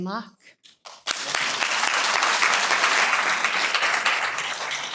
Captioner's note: applause